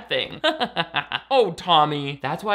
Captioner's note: laughing